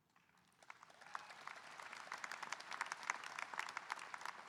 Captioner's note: audience applauding